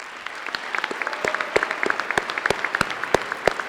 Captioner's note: applause